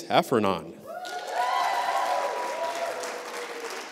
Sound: applause

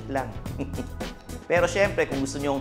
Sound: chuckles

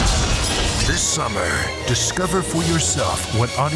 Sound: voiceover

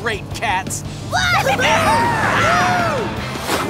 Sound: cheering

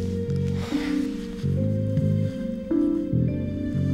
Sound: Squib sighs

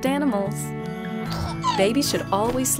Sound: baby coos

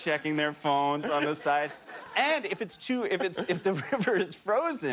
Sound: laughter

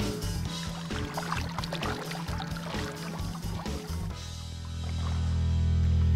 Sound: water splash

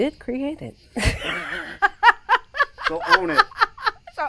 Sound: laughs

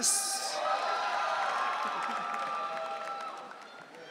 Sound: audience cheering

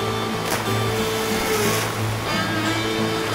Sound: splash

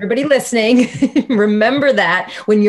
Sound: laughing

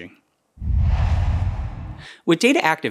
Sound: logo swooshes

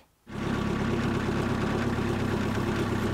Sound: engines

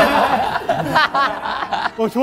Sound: real laughter

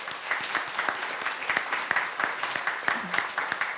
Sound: applause

